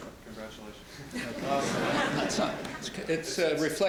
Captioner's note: laughter